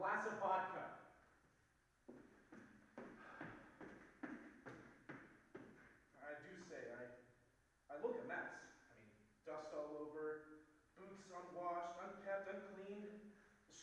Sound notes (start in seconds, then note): 2.0 footsteps receding